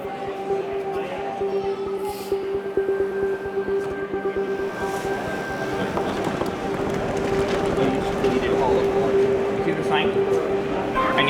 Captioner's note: background noise and busy chatter